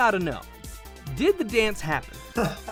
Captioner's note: laughing